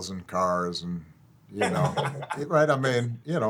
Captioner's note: twins laughing